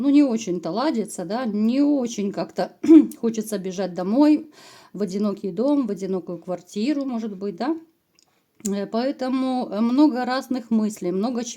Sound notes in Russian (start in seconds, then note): 2.8 откашливается